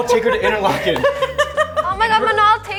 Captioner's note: laughs